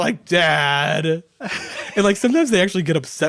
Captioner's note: laughing